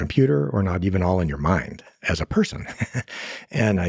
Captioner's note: laughs